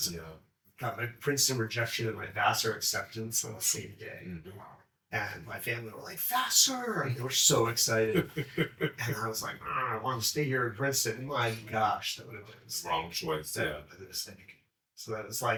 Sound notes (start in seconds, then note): 7.6 chuckling